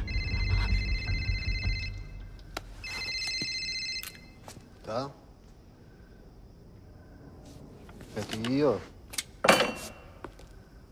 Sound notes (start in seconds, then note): 0.8 phone ringing; 4.9 speaking Russian